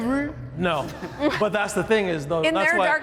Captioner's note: people laughing